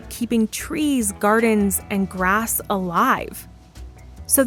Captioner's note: none